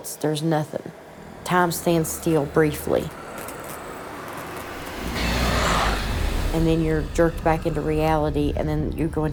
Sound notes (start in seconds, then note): 4.5 growling